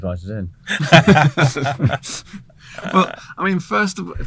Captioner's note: all laugh